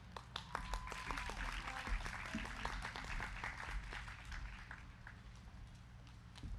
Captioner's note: crowd clapping; crowd cheering